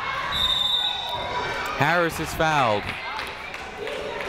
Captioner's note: whistle